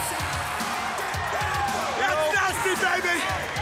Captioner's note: crowd cheering